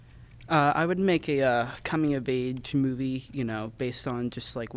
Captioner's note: none